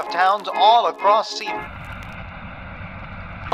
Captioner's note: static